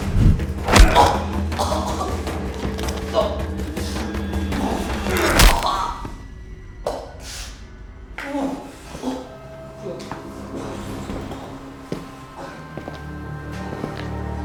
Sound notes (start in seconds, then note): 0.3 grunting; 4.8 ribs breaking